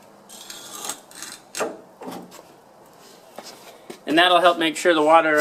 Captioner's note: wood scraping